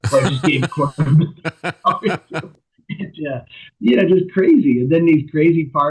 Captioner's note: laughter